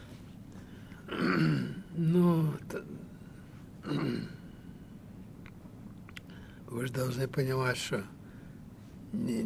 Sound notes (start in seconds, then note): 0.7 sighing; 1.1 clears throat